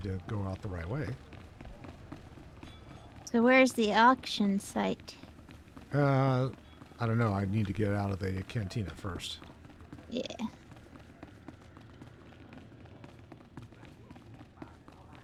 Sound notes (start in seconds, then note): 13.0 footsteps